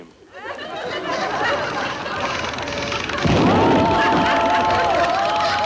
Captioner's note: machine needles blow